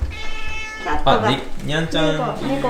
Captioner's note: cat meowing